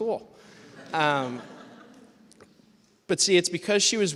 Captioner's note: laughter